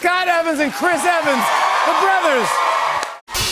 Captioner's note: cheers and applause